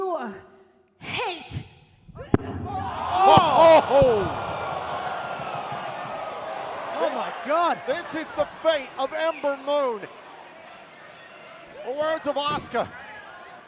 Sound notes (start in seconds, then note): 2.0 microphone drops